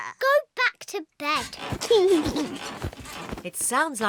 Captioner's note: laughs